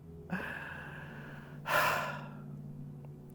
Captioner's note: laughs; sighs